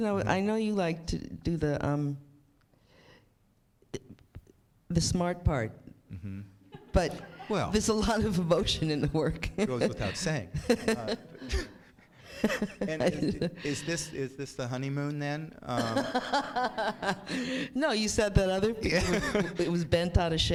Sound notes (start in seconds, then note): 15.7 laughs